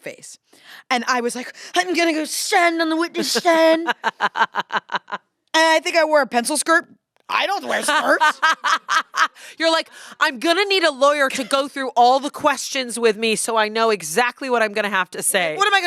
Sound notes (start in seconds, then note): 3.0 laughs; 7.6 laughs